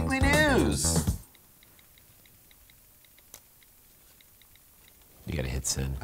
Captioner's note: typing